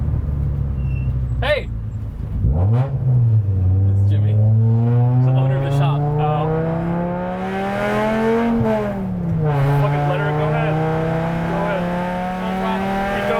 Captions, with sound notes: Hey. It's Jimmy. He's the owner of the shop. - Oh okay. (car engine roaring) Fuck it, let her go ahead. Go ahead. - Full throttle.